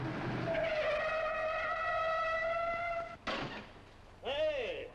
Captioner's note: tires squeal